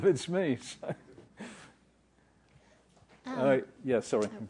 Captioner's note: laugh